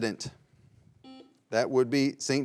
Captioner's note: buzzer beeping